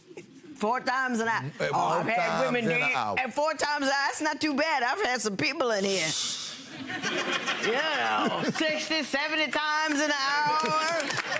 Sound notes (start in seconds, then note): 6.7 audience laughs